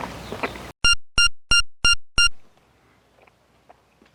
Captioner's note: machine beeps